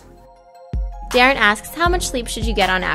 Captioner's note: voiceover